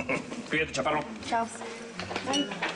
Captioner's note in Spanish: Ríe